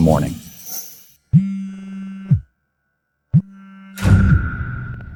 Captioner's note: phone vibrates